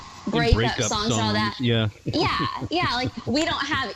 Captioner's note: laughs